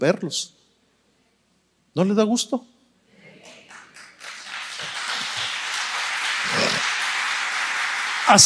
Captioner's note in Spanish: aplausos